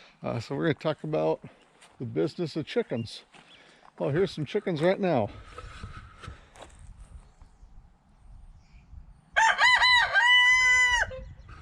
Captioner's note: rooster crows